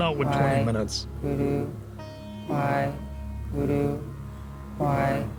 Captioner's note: people chanting "waheguru"